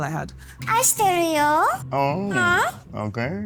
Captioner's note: still on the Japanese speaking